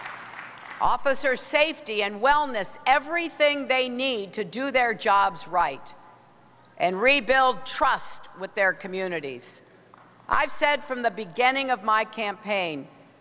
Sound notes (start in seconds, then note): 0.0 applause